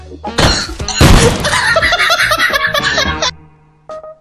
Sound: laughing

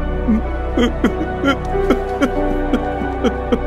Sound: crying

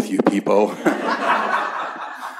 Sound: laughter

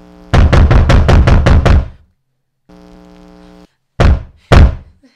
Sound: heavy knocks on door

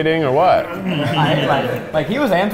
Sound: laughter

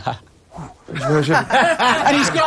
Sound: laughing

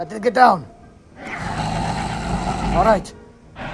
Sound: metriacanthosaurus Sounds

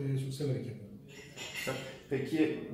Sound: more clatter noise

